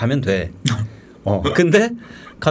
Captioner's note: laughing